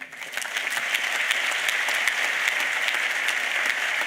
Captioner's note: applause